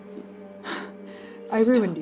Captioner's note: rapid breathing